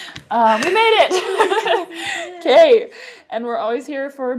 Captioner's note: laughs